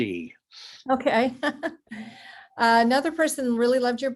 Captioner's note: chuckles